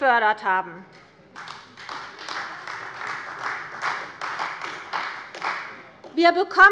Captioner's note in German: Beifall bei Abgeordneten der CDU